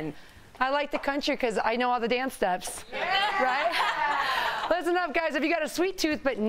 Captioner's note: laughter